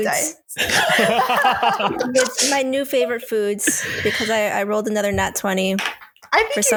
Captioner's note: laughter